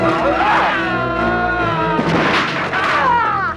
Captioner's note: man screaming; Hundra grunts; Hundra grunting